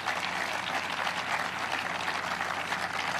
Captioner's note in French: applause